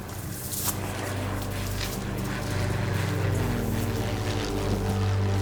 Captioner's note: dramatic music; airplanes buzzing